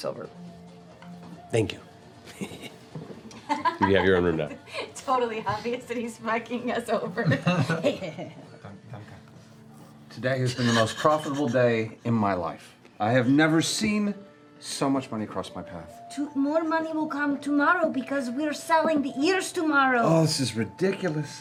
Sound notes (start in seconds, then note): 3.2 laughs; 7.3 imitates Crute's laugh